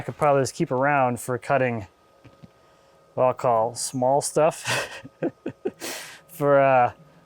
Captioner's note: laughing